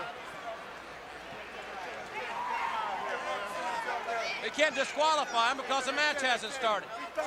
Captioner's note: crowd chatter